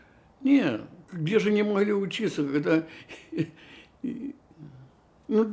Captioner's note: laughing